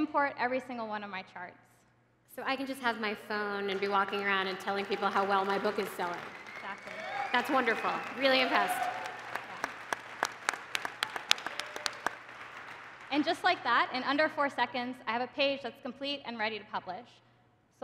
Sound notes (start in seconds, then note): 9.5 applause